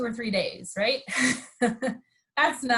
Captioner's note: laughs